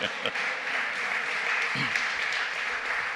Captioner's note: applause